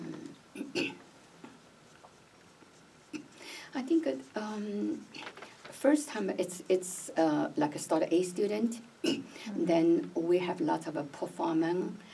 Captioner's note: clears throat